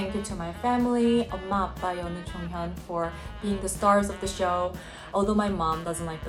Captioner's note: speaking in Korean